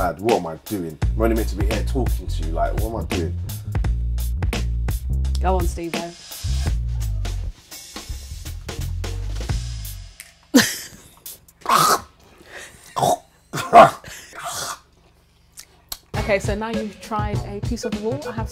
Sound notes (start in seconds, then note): 7.1 chewing; 10.5 laughing; 11.7 choking